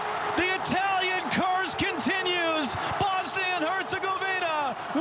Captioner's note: applause